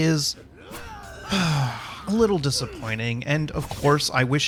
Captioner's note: sigh